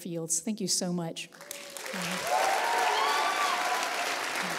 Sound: applause

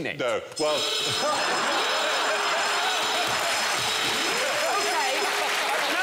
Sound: klaxon sounds

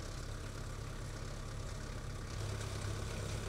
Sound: motor rumbles

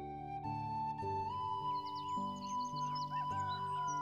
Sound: birds tweeting

